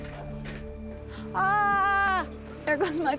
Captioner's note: exclaims